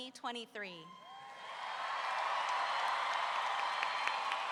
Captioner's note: roaring cheer